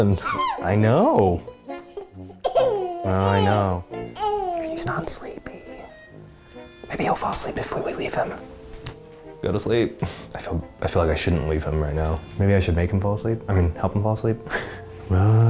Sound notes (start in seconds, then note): 1.8 giggles; 4.8 whispers; 14.4 chuckles